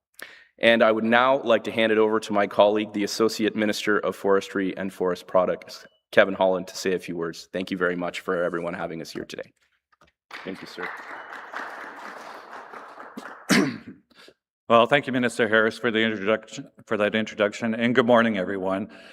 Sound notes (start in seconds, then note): 12.2 applause